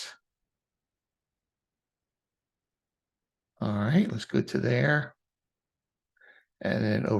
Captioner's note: silence; silence